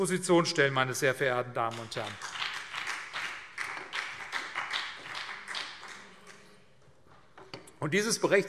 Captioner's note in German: Beifall CDU und BÜNDNIS 90/DIE GRÜNEN